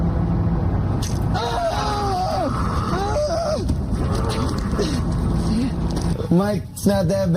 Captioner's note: screams and Steve-O noises